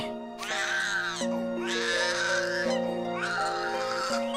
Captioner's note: crying